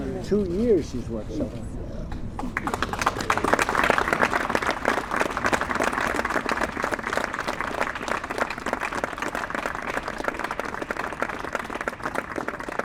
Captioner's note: applause